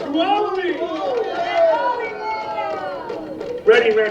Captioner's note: shouting